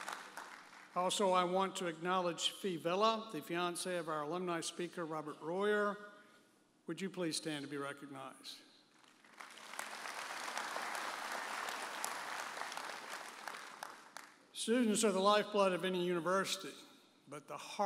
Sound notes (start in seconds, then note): 9.0 audience applauding